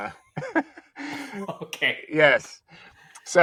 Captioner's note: laughing